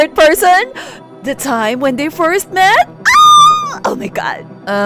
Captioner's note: fangirl squeue